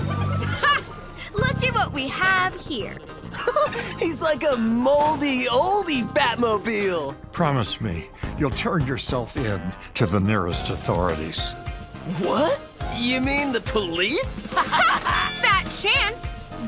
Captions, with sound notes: Ha! Lookie what we have here. [giggles] He's like, a moldy oldie Batmobile! Promise me you'll turn yourself in to the nearest authorities. What? You mean the police? [laughs] Ha! Fat chance.